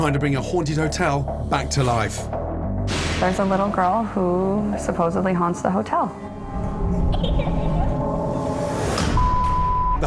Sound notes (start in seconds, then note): 6.9 little girl giggling quietly; 8.0 eerie music